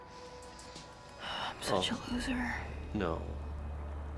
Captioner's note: sigh